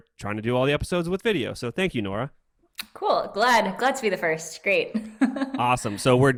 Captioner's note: laughs